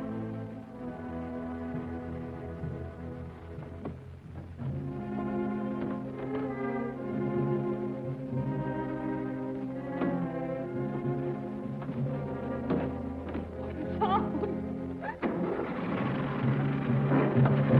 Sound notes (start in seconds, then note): 13.8 sobbing